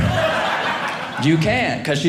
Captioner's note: audience laughing